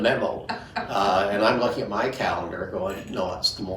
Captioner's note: chuckles; laughing